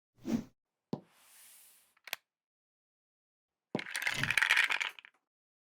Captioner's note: screen swooshing